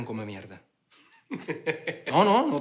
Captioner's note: laughter